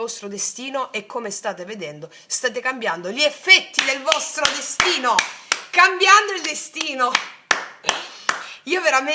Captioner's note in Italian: applauso